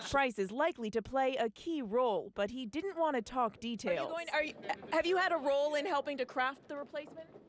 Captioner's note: laughter